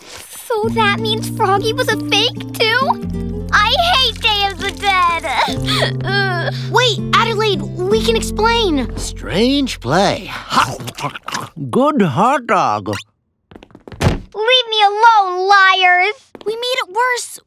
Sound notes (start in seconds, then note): 5.6 cries; 10.4 eats loudly